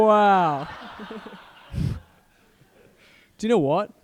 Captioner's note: group laughing